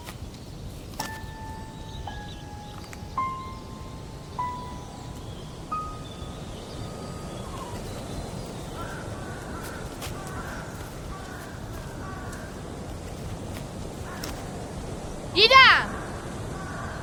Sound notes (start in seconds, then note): 1.1 ominous notes; 6.9 wind intensifies; 9.9 crows cawing